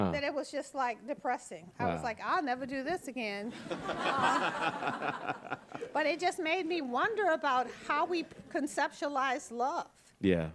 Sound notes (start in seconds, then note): 3.5 audience laughing